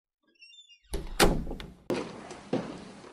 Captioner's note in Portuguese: brígida fecha a porta de casa